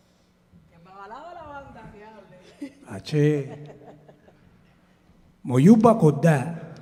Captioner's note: musicians speaking in Spanish